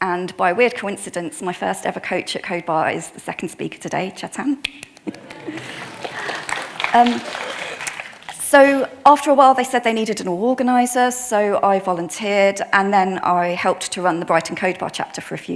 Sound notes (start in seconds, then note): 5.0 claps; 5.0 attendees applauding